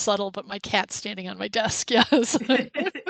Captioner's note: laughs